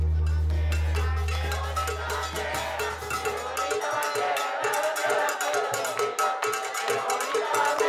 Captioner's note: crowd Chants